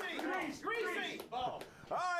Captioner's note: audience cheering